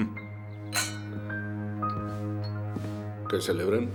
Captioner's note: clink